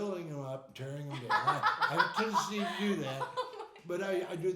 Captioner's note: laughing